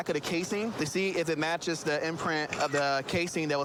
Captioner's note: camera app clicks